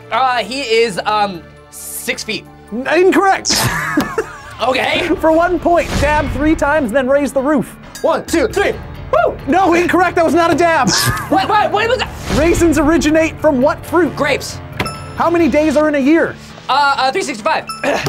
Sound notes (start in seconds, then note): 3.4 laughs; 14.8 bell rings; 17.6 bell rings